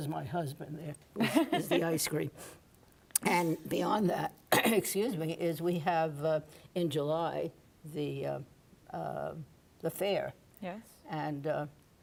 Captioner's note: coughs